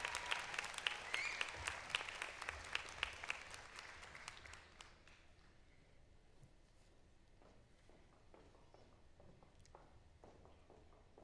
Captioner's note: applause